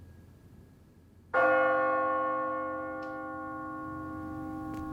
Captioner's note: bell tolling